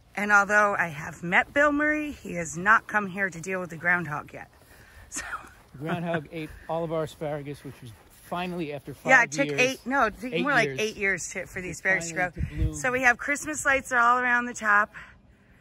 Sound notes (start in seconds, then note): 5.7 laughs